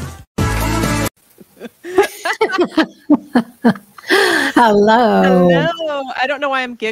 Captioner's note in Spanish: La risa